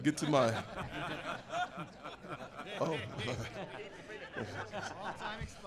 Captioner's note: laughter